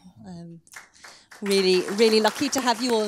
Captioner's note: audience applauding